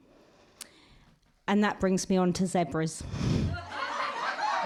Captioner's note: laughter and applause